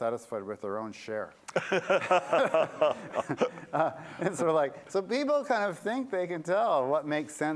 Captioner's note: laughter